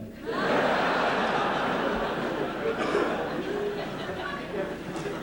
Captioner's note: laughter